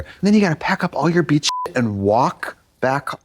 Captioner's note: beep